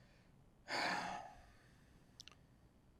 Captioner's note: pauses 6 seconds; sighing